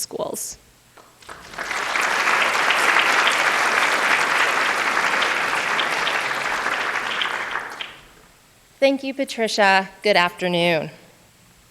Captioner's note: applause